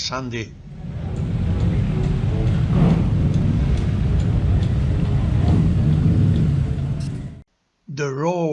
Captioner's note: motorcycle noise